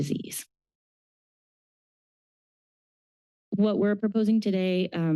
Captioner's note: pause